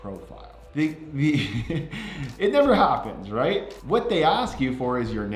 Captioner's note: chuckles